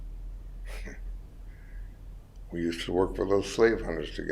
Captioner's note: chuckles